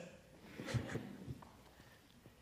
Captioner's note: laugh